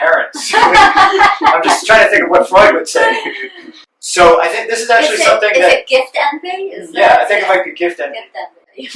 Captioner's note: laughter